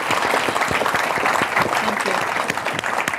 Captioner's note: audience applauding